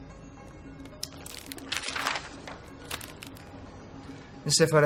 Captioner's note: radio is playing in the restaurant; rustling paper